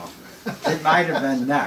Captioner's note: laughs